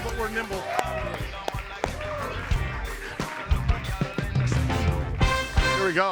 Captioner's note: audience applauding; clapping